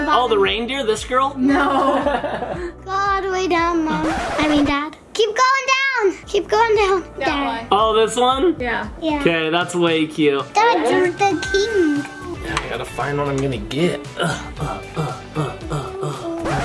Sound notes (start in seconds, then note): 1.5 laughing; 3.9 tape scratching; 16.4 tape scratching